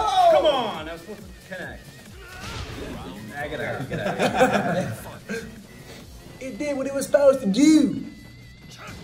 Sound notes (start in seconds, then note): 3.5 laugh